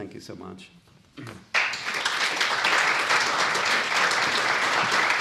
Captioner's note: applause